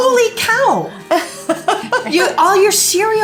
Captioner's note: laughs